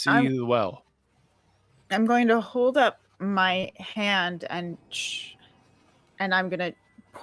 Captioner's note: shushes